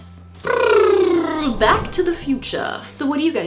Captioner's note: blows raspberry